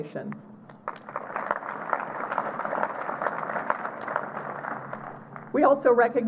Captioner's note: applause